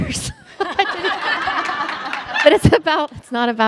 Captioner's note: all laugh